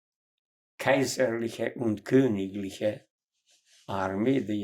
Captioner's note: german